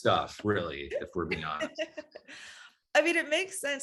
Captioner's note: laughing